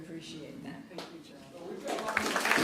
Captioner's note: applause